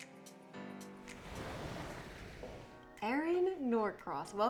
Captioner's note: waves crashing